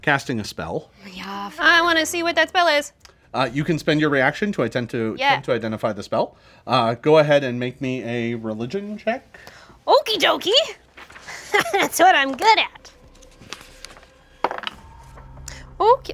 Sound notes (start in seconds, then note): 11.2 laughs; 14.4 dice roll